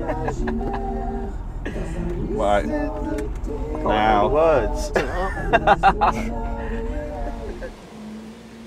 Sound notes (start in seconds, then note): 4.8 laughing